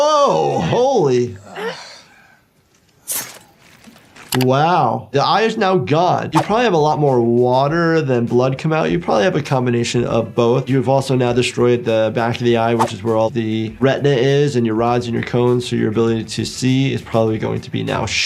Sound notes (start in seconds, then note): 3.0 knife slicing